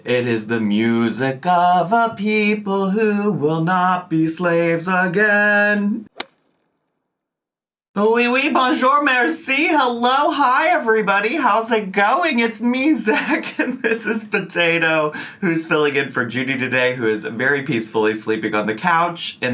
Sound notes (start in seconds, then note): 6.1 air whooshing; 8.3 speaking foreign language